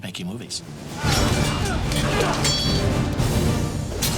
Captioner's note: men grunting; swords clanging